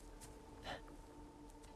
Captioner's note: laugh